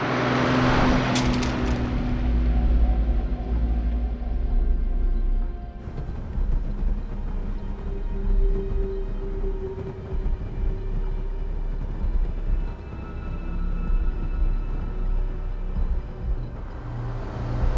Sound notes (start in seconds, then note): 1.1 phone clatters; 1.2 ominous music